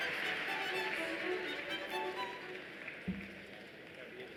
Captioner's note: applause